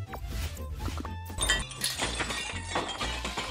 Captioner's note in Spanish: ruido a vidrios rotos